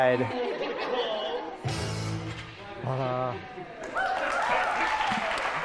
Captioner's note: laughing and cheering